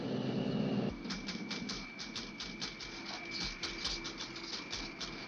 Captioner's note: woman typing